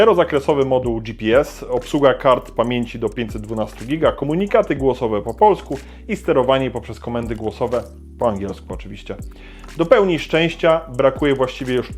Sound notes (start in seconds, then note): 8.0 in English, of course